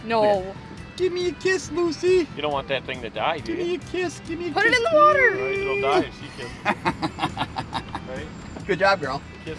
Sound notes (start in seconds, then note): 6.2 laughing